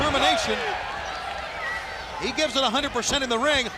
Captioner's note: crowd cheering